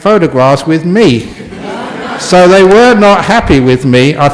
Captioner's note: laughter from the audience